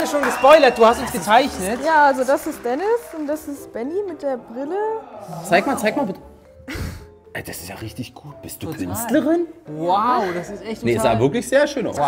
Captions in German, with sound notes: Es wurde schon gespoilert, du hast uns gezeichnet. Das ist Dennis und das Benni mit der Brille. Zeig mal, zeig mal, bitte. (Lachen) Richtig gut. Bist du Künstlerin? - Wow! Sah sehr schön aus.